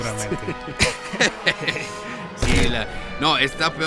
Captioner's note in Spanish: Risas De Burla y Desentendimiento